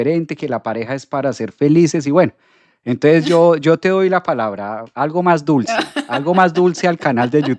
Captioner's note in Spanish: risas